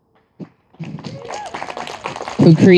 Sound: audience applauding and cheering

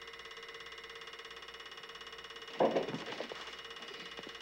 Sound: heater rattles on

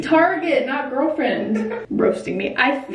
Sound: giggles

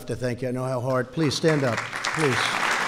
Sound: applause

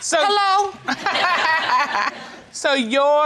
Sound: laughing

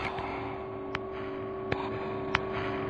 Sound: echoing backslaps

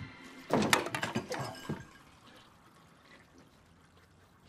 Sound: chair clanks

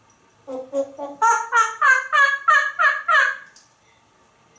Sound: monkey sounds

